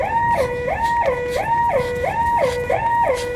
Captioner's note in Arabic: لهث